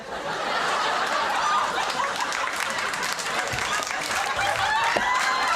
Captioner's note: audience laughing